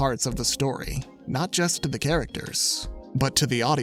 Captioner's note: none